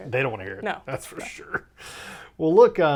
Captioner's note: laughs